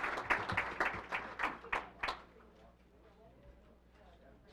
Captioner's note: applause